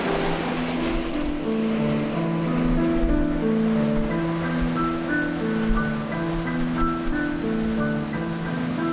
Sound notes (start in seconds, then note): 3.3 wave breaking